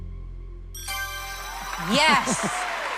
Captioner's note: ding